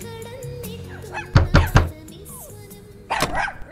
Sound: banging on the door

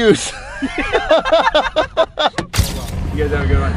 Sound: laughing

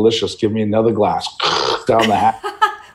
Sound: gurgles; laughing

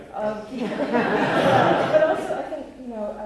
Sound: laughter

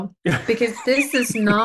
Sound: laughter

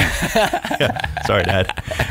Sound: laughing

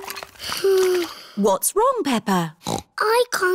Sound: sighs; snorts

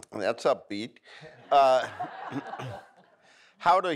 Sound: audience laughs

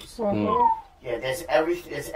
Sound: sounds of agreement

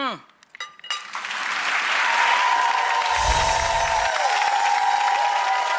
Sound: audience cheering

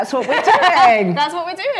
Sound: laughs

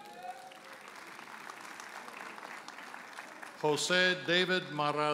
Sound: audience applauds

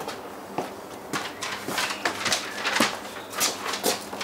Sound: birds chirping

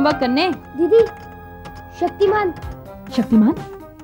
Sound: keyboard clacking

